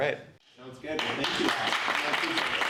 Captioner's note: applause